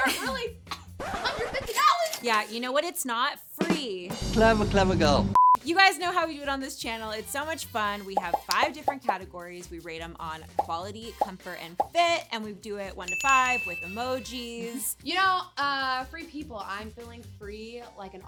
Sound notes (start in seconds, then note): 1.0 record scratching; 3.6 drum music; 5.4 electronic beeping; 8.2 notification popping; 10.6 notification popping; 13.0 bell ringing